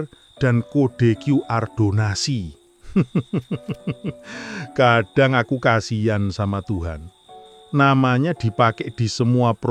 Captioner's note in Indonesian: tertawa